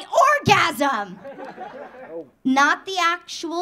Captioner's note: audience laughing